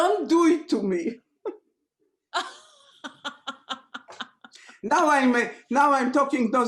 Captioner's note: laughter